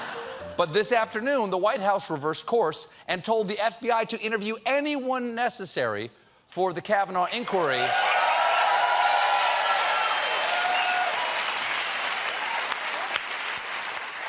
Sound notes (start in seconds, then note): 7.5 cheers and applause